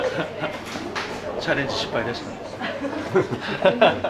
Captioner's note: laughs